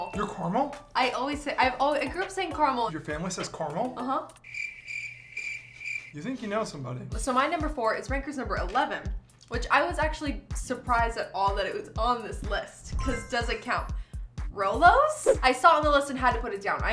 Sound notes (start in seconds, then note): 4.4 crickets chirp